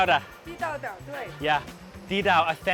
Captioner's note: speaks in a foreign language; woman speaks in a foreign language; speaks in a foreign language